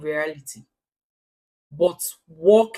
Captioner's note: paause